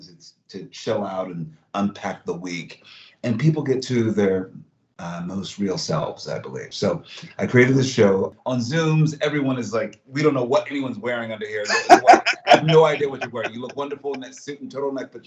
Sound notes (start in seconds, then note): 10.2 laughs